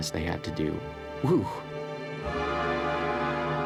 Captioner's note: exclaims